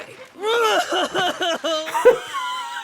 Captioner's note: ugly cries